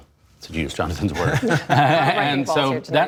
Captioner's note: laughter